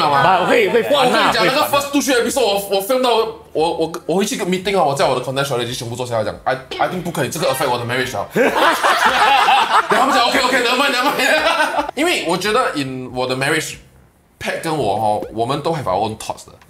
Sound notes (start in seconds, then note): 8.3 laughs